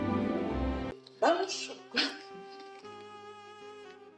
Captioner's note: laughs